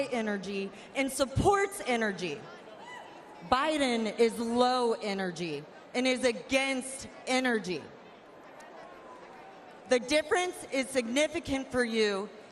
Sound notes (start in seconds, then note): 1.4 laughs